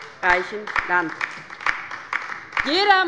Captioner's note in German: Beifall bei der LINKEN